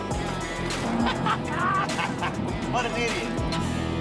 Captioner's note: man laughing